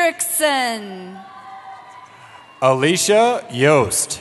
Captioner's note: cheering